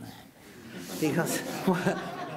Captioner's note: audience laughing